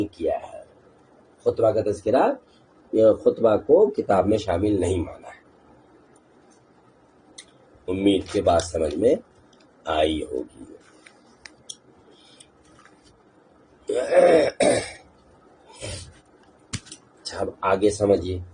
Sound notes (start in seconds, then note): 13.9 clears throat; 14.8 snores